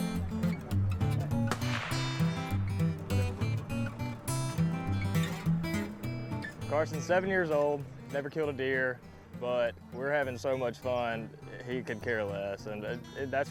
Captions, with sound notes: (gun shoots) - Carson's seven years old, never killed a deer, but we're havin so much fun he could care less.